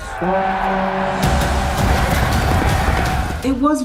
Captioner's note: crowd clamoring; horn blowing